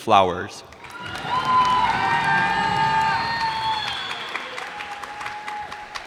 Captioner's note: cheers and applause